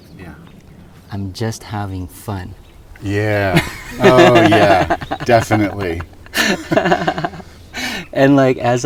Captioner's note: laughs